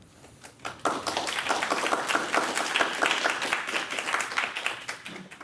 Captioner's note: audience applauds